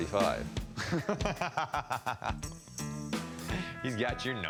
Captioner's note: laughter